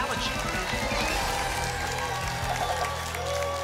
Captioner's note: applause and cheering cont